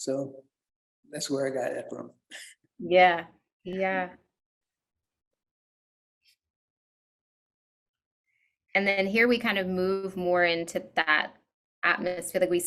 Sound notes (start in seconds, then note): 4.7 chuckles